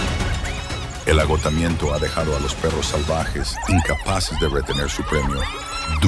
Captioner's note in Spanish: risas